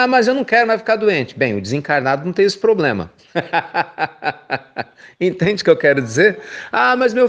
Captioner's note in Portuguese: risos